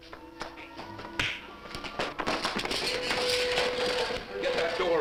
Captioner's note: clattering